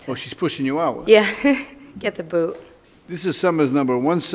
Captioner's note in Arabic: ضحك خافت